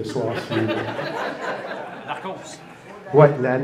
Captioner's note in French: rires